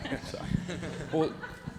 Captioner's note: laughing